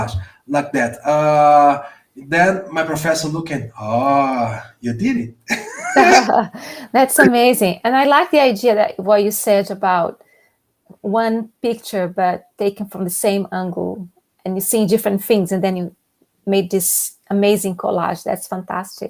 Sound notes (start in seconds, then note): 7.0 impressed sounds